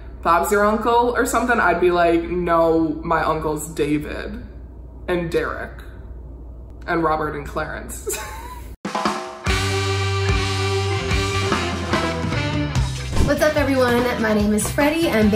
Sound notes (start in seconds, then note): 8.4 laughs; 9.5 upbeat music